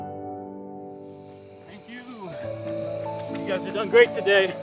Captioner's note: crickets chirping